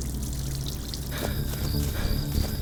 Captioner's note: water gurgling; crickets chirping